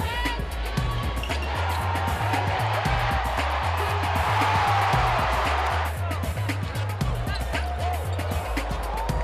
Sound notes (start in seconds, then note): 1.8 crowd cheering; 6.5 lively music